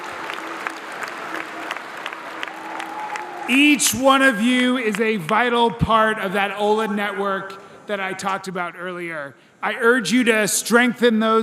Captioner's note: applause